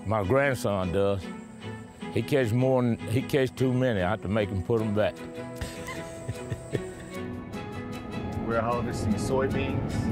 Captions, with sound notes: My grandson does. He catch too many. I have to make him put 'em back. (laughs) - We're harvesting soybeans.